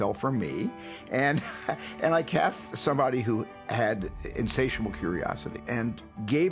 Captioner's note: chuckles